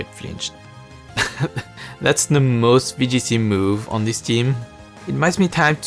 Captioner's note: chuckle